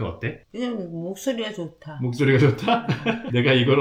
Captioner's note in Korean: 웃음